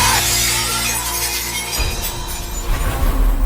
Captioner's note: glass breaking sfx